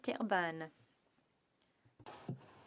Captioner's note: speaking in French